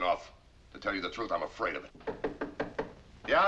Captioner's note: knocking